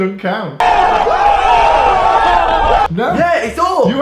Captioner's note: cheering